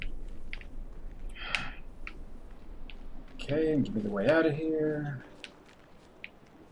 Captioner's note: sighs